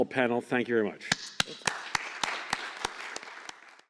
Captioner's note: applause